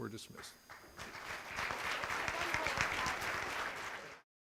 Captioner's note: applause